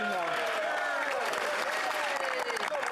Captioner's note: speaking French